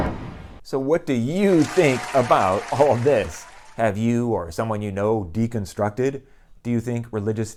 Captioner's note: applause